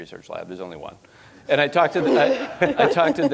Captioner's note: audience laughing